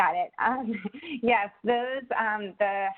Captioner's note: chuckles